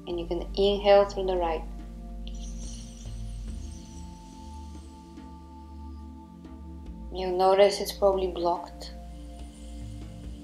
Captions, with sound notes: and you're gonna inhale through the right. (Inhaling deeply) You'll notice it's probably blocked.